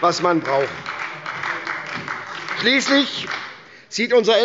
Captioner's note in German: Beifall bei der SPD